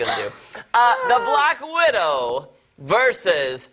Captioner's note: laughter